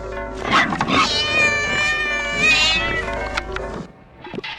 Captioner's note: cat yowling